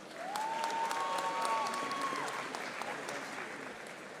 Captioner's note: audience applauding